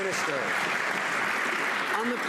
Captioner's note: some Applause